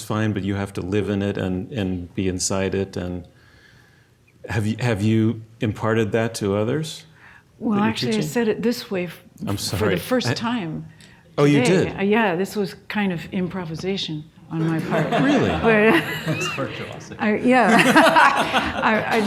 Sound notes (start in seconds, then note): 14.6 audience laughs; 17.4 laughs